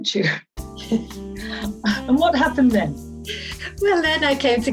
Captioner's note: both laughing